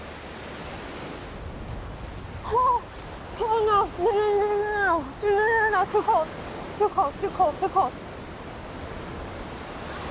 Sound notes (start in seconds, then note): 2.5 Fern cries out; 9.9 waves continue crashing